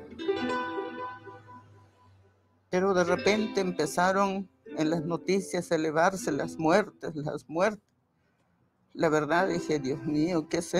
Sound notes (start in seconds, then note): 2.7 speaking in foreign language